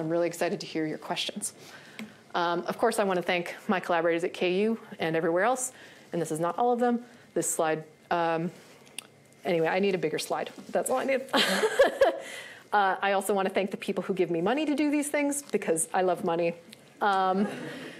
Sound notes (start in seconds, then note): 11.4 laughs